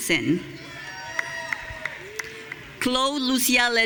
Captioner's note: audience cheering